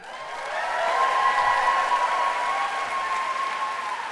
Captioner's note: applause